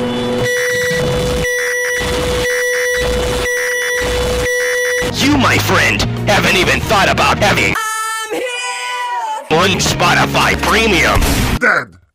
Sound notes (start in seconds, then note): 11.2 gunshot